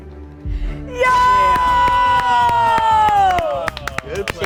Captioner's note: everyone clapping